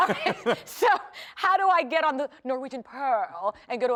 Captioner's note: laughter